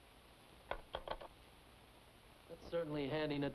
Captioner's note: phone clicks